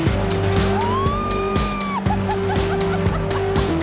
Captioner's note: screams